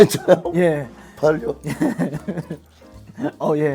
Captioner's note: haha